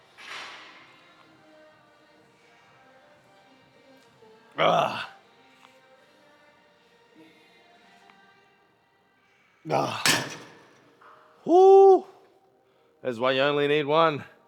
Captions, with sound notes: (soft music) (grunts) (grunts) Whoo. That's why you only need one.